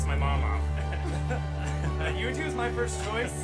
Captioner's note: graduates laughing